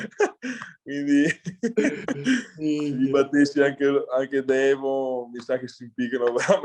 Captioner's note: laughs